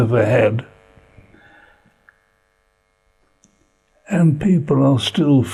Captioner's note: pauses for 3 seconds